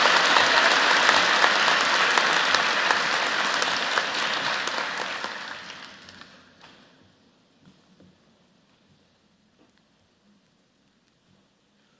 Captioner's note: applause